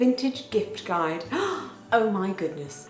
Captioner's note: gasps